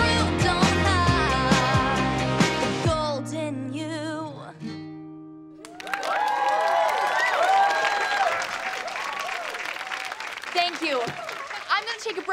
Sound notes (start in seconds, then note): 5.6 cheering, applauding